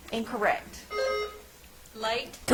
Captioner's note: bell ringing